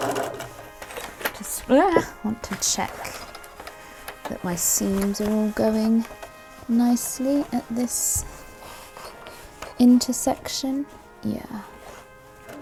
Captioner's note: yelps